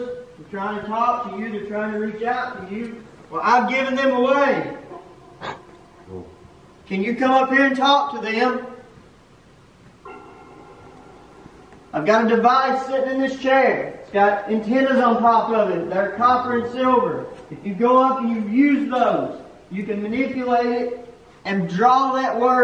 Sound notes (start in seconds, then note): 3.9 metallic sound